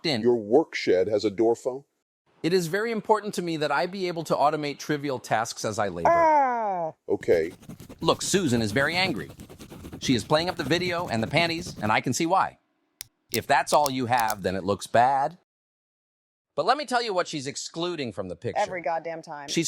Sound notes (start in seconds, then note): 6.1 groans